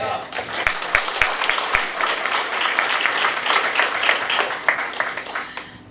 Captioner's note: clapping